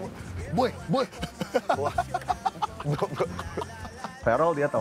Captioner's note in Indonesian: Ketawa